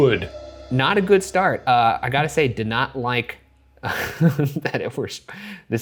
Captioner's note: laughs